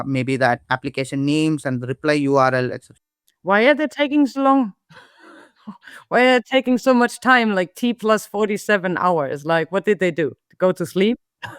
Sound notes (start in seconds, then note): 4.9 both chuckle